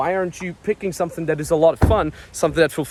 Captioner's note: door bangs